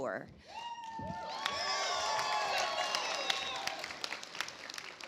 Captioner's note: audience applauds